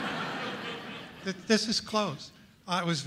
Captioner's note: audience laughing; voiceover